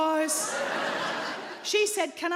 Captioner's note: audience laughing